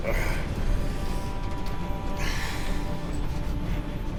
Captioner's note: Cole grunts